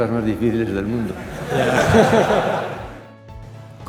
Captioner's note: laughter